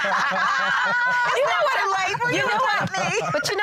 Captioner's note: laughter